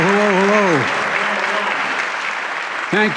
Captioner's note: applause